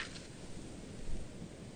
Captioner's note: paper crinkling